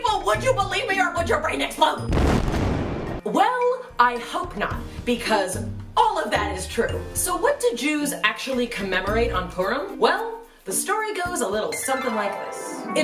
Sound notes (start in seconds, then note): 2.1 explosion